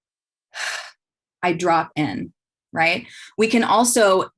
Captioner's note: exhales